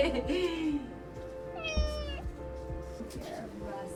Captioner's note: meows